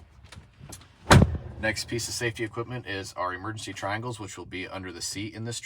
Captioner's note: door shutting